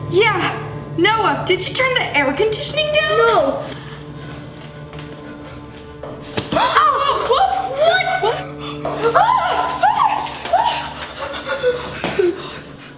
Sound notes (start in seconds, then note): 6.3 snowball thuds; 8.9 girls shriek